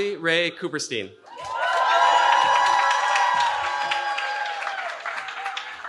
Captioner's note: cheering